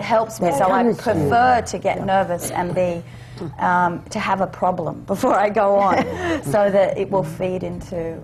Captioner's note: laughs